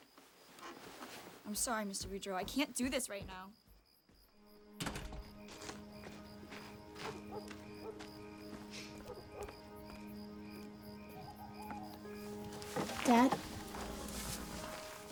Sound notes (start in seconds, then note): 4.8 door bangs shut; 7.1 dog barks distantly; 7.1 gentle somber music